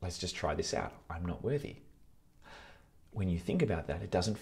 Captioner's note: gasps